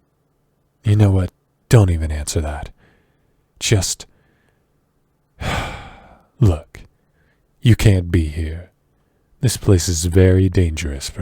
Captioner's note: sigh